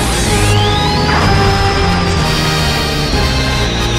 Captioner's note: explosion